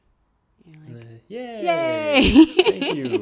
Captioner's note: laughing